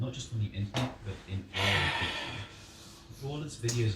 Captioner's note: sigh